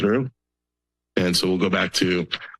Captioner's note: pause